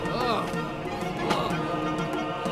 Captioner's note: grunting